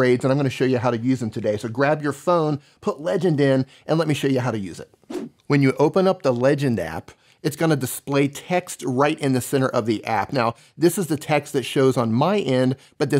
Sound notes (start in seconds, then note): 5.0 swishing